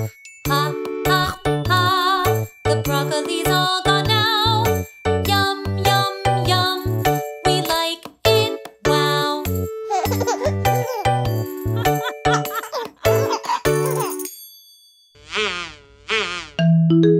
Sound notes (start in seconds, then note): 10.3 playful music; 11.7 laughing